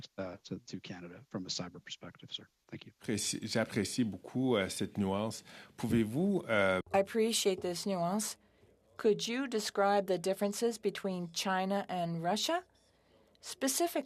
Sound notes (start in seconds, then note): 7.5 speaking French